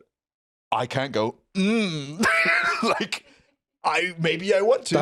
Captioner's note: laughs